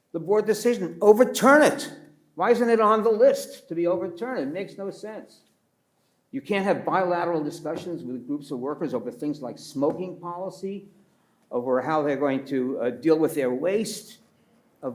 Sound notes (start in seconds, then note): none